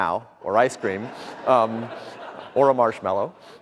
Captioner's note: audience laughter